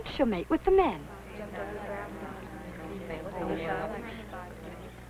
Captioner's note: women chattering